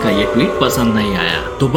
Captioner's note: crowd Boohoo